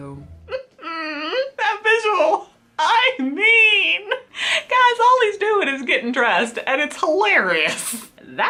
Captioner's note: laughs